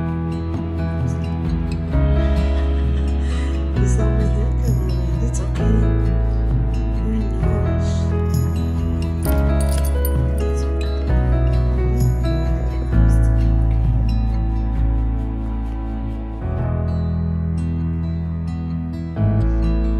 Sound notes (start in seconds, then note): 2.7 laughter